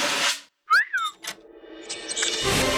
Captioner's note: whistles